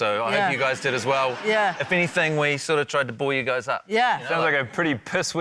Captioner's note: laughter